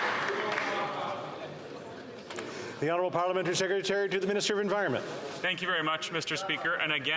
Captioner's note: some Applause